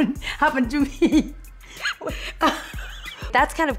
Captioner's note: laughs